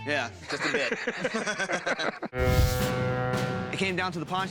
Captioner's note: laughter